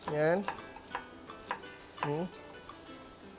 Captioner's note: sizzles